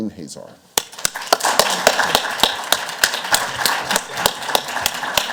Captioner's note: audience applauds